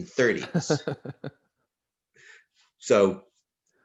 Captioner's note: laughs